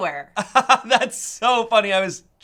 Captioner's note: laughs